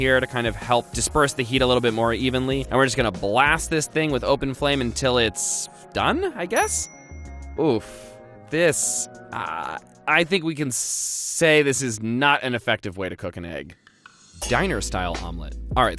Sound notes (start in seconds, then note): 6.6 dings; 14.4 cymbal crashes